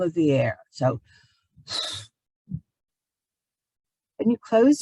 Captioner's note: exhales audibly